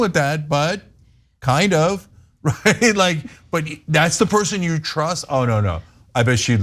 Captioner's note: laugh